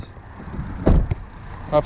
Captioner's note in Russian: громко хлопнула закрывающаяся дверь